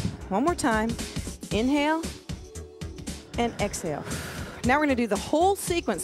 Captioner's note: breath hisses